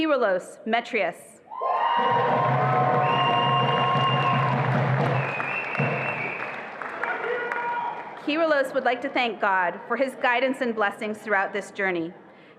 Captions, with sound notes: Kiluos Metrius. (attendees applauding and cheering) (drum rolling) Kiluos would like to thank God for his guidance and blessings throughout this journey.